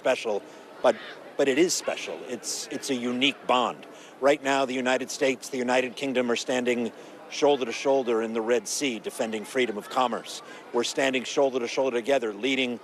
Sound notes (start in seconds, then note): none